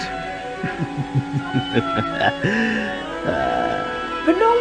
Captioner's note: laughing